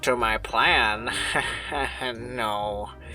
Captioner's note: chuckles weakly